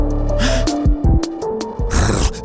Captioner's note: music fades out; sharp inhale over music